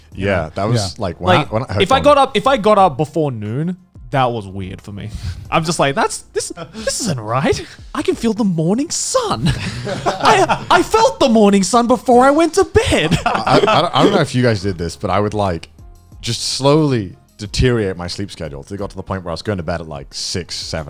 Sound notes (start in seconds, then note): 9.4 laughing